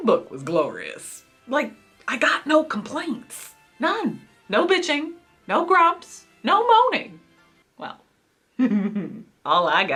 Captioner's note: giggles